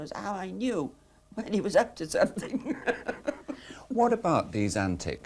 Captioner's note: laughs